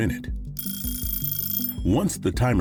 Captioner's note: bell rings